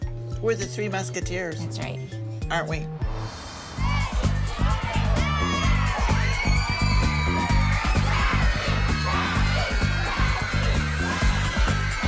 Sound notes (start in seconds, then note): 2.7 electronic dance music; 5.4 shouting; 6.1 electronic dance music